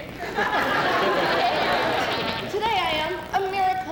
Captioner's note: laughter